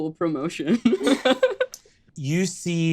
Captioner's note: laughs